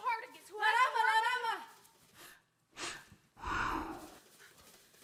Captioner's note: speaking Spanish